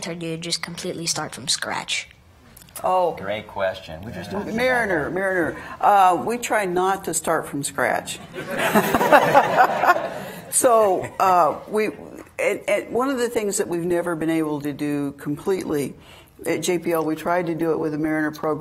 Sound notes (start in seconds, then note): 8.3 laughing